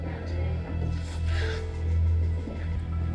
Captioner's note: sobs